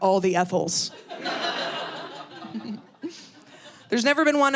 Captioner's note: audience laughing